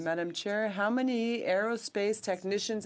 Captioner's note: speaking French